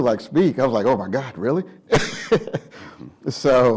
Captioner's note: laughs